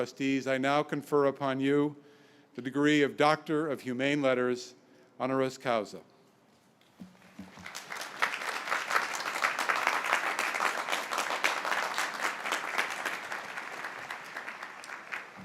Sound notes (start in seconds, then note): 7.1 all clapping